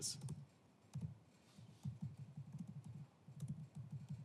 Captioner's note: typing sound